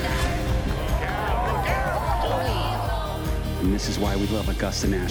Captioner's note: crowd cheers